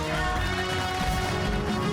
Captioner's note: cheers and applause